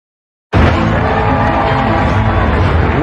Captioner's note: cheering and applause; dramatic music